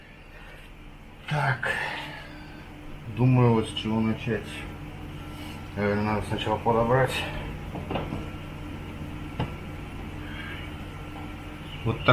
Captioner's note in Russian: вздыхает